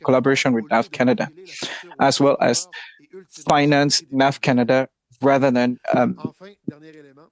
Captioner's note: speaking French